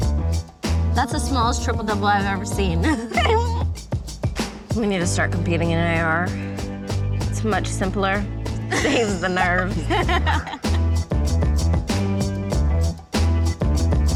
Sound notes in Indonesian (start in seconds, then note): 8.7 Tertawa